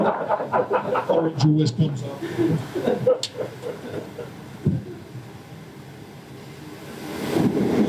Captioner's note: audience laughter